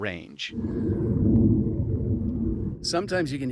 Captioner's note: plane roaring